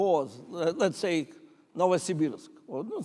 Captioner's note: speaking in foreign language